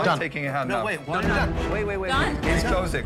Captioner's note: group chattering